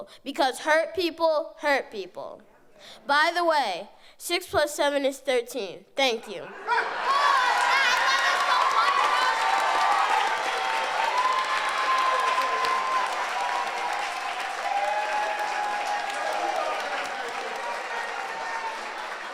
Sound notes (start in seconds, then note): 6.8 audience cheers